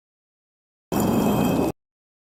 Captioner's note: concrete scraping sound effect